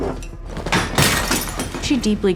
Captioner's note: vase shattering